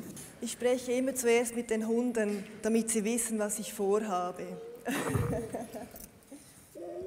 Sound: laughs

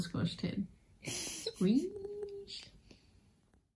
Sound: giggles

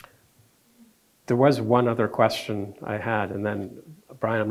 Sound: none

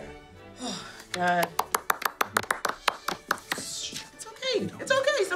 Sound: applause

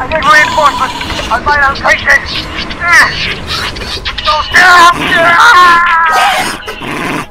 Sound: continued Struggles and Mumblings; bird Sounds

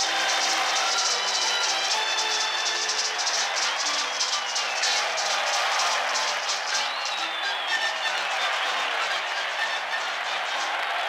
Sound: applause, cheers, music

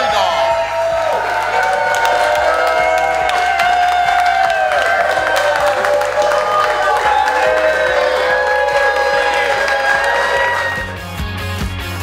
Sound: cheering & Clapping

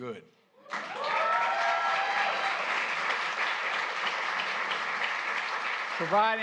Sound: applause

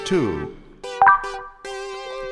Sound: beep

